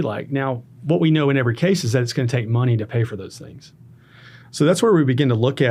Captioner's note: none